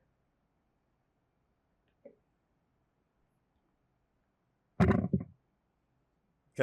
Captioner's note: silence